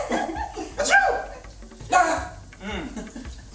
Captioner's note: group laughs; sneezes